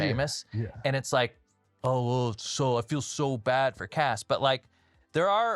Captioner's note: mockingly